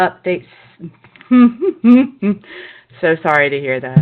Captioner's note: laughter